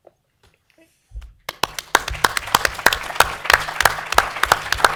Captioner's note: applause